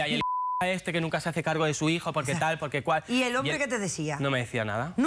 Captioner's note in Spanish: Bip